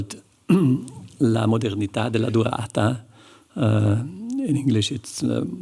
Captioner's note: non-english speech